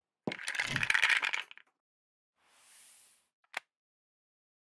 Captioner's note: objects clanking